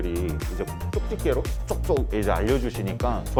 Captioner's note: bloop